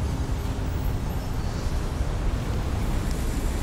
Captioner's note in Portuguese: efeito sonoro de cidade